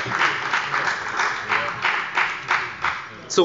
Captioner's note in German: Beifall bei der FDP